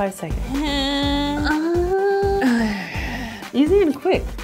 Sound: grunting

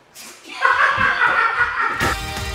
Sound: laughter

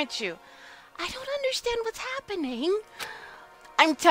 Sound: whispers

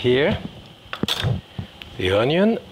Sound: tongs clatter

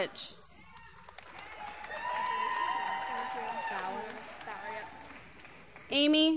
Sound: applause

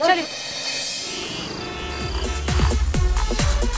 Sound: cars honking

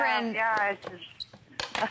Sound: laughter

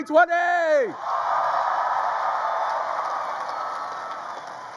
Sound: crowd cheers

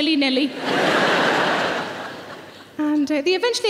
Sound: audience laughing

